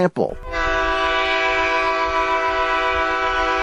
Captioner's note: horn blasts